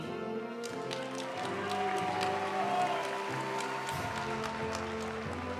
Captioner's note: audience cheering and applauding; graduation music